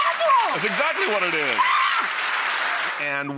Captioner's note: audience applauds; shrieks